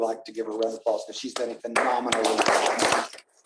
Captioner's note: applause